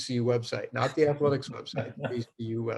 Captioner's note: laughs